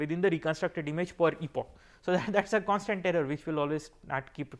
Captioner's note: laugher